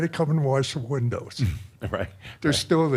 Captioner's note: chuckles